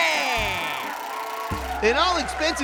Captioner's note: audience cheers